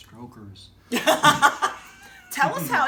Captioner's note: laughs